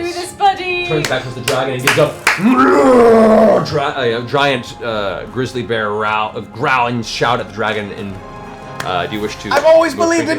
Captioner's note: roars